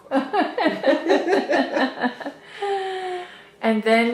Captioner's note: laughter